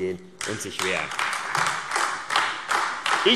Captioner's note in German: Beifall AfD